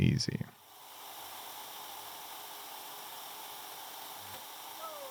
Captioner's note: machinery whirring